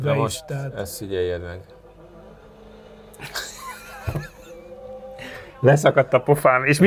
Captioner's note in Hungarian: nevetés